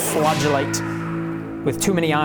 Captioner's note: screams